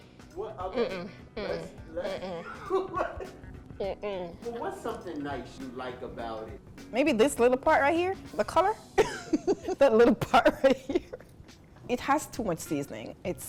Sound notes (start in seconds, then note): 2.0 chuckling; 9.0 chuckles